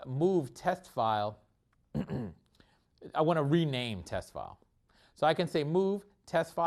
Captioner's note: cough